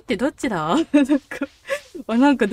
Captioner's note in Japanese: 笑う